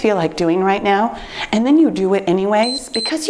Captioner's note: timer beeps